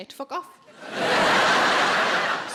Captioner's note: audience laughing